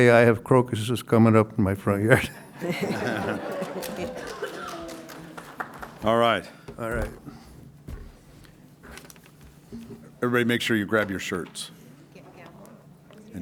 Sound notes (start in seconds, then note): 2.1 laughter